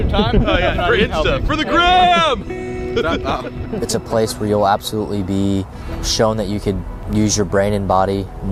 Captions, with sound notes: For Insta, for the Gram. (laughing) - Shut up. - It's a place where you'll absolutely be shown that you can use your brain and body